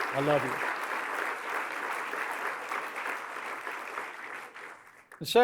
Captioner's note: applause